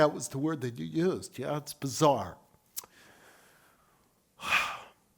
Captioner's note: sighs